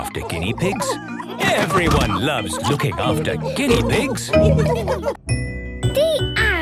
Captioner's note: laughter